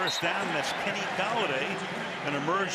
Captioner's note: whistle